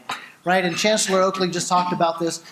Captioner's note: none